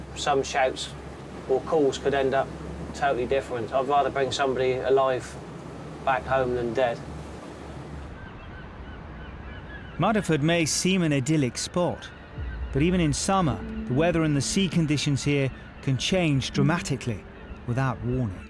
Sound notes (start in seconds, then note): 8.4 seagulls squawking